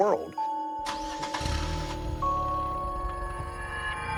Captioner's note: engine starts